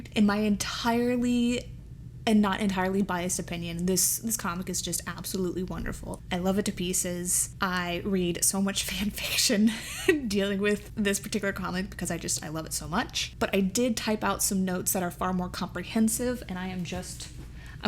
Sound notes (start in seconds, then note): 9.7 chuckles